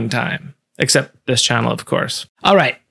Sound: cheekily

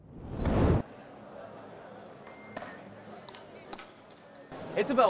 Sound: crowd chattering

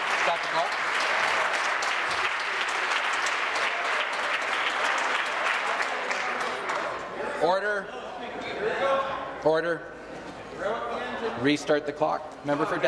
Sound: applause

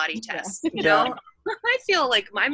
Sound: laughs

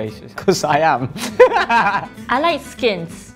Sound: laughs

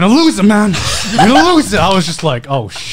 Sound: laughing

